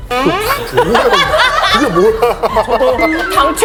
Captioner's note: laughs